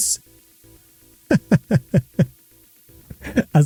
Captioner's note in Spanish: risas